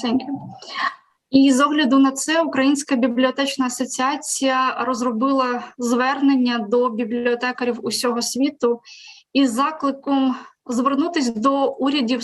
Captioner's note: foreign Language